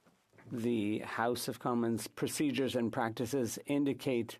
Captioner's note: speaking French